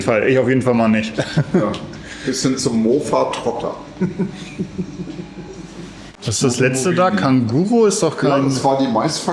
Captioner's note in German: gelächter